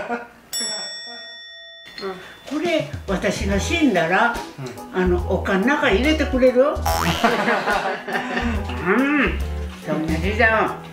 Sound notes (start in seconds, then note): 7.2 laugh